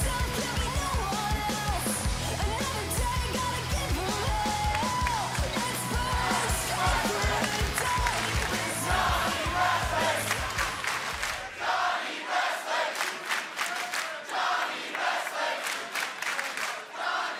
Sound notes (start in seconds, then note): 0.3 cheers and applause; 6.4 fans chanting